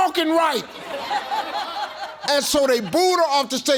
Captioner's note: audience laughing